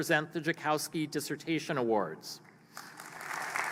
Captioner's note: applause